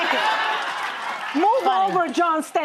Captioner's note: audience laughing